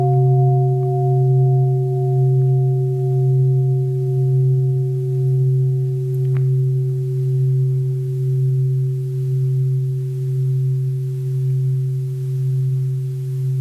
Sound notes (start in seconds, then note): 1.2 sound of the Bell